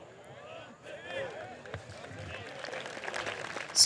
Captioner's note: applause